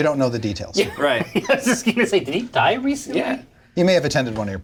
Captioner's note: laughs